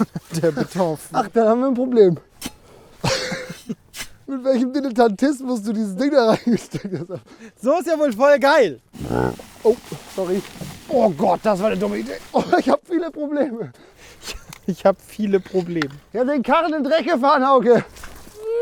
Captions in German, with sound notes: Du bist der Betonfach... - Ach, da haben wir ein Problem. Mit welchem Dilettantismus du das Ding da reingesteckt hast. So ist ja wohl voll geil. *Rülpser* Sorry. Oh Gott, das war 'ne dumme Idee. - Ich hab viele Probleme. "Ich hab viele Probleme!" Ich hab den Karren in den Dreck gefahren.